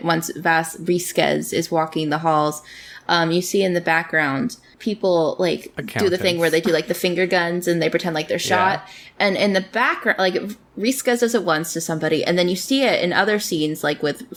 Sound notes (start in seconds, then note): 5.8 laughs